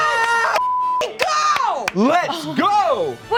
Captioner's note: beep